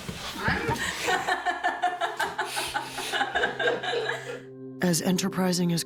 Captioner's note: laughter